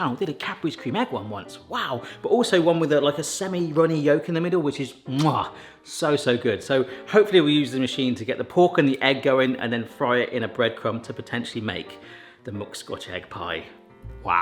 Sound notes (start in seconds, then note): 5.1 lips smooch